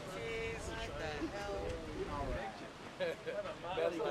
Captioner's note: people talking